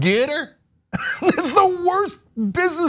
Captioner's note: laugh